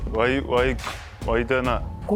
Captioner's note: imitates snigger